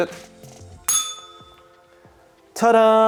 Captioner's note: bell rings